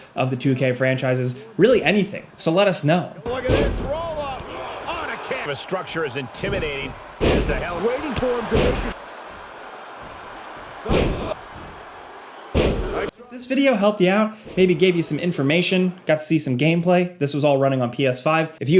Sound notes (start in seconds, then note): 10.9 crowd cheering; 10.9 floor thudding